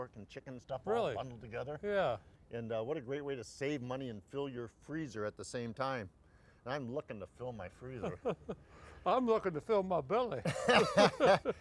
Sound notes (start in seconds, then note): 7.6 laughing; 10.4 laughing